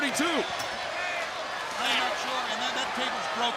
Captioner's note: crowd chatter